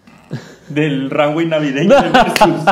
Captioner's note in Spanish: risas